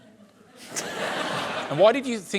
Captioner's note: laughter